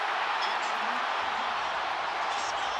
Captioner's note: crowd cheering